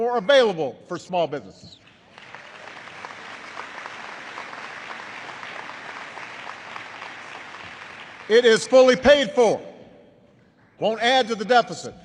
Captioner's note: applause